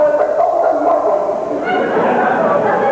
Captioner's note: laughter